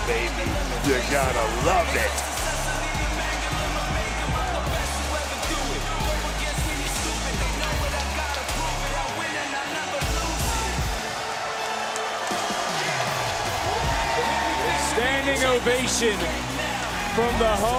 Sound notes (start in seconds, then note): 0.0 laughs; 3.2 crowd cheers